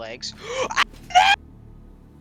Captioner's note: gasp